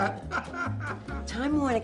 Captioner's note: laughs